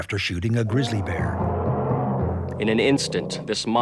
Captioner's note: grizzly Bear Roars